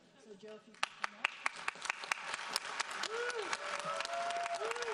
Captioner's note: audience applauds